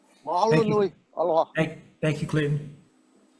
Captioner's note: speaking in foreign language